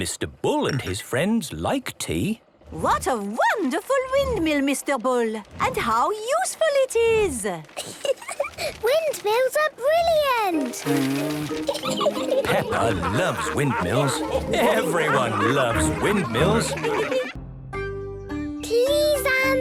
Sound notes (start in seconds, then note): 11.3 blows